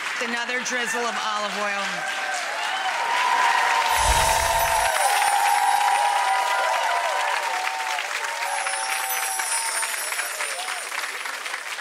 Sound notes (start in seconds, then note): 0.0 audience begin applauding and cheering; 3.0 audience continues applauding and cheering